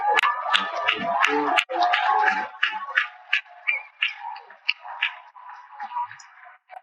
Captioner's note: cheering and Applause